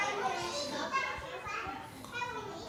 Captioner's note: none